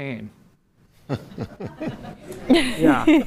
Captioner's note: laughter